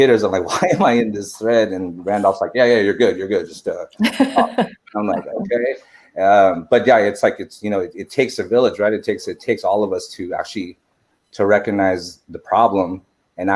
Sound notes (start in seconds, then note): 0.0 laughs; 4.2 laughing